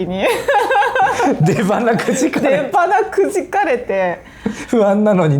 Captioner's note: laughs